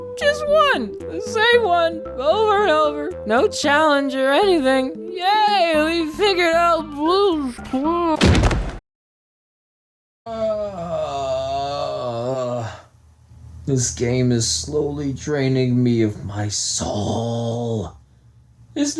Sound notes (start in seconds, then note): 10.2 moans